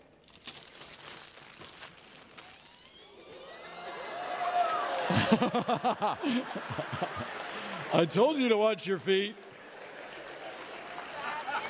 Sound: audience laughing and clapping

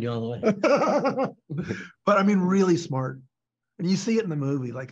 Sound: belly laugh

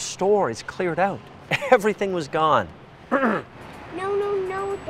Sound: clears throat

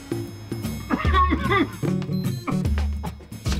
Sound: coughing

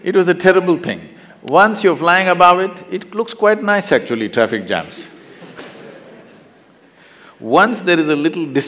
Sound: laughs

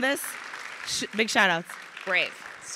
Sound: crowd applauding

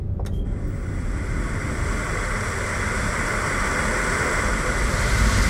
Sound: television static fizzling

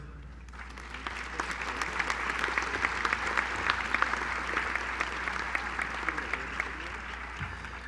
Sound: applause

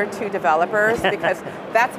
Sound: laughs

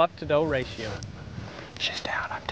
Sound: whispering

